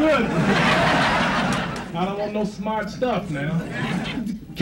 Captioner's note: crowd laughs